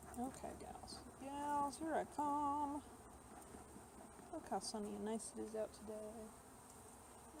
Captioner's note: sing-song